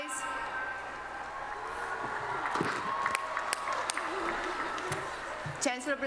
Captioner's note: applause